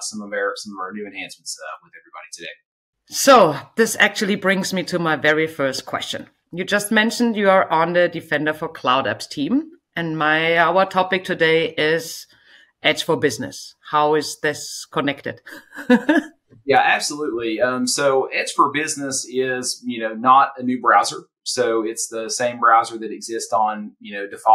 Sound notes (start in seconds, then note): 15.5 chuckles